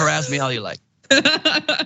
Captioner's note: laugh